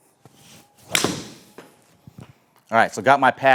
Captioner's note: club smacking